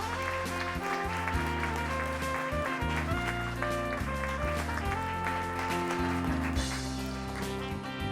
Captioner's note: applause